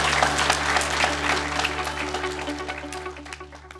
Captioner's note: applause